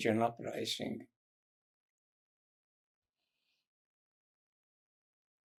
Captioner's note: pauses 6 seconds